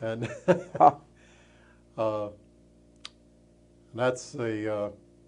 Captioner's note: chuckles